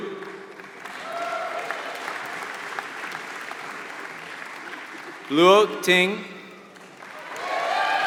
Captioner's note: applause